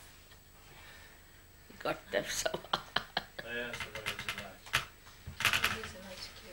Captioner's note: shri mataji laughs